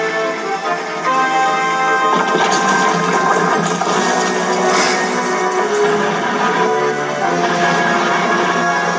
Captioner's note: The Old Tramp Steamer Crashes Into The Shed